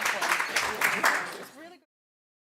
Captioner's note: audience clapping continues